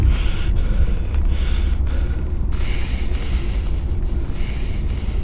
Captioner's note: panting